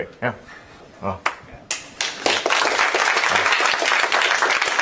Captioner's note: applause